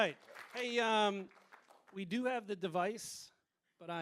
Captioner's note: applause